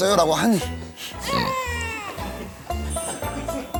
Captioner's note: snort